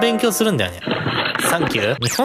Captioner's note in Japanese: 走る音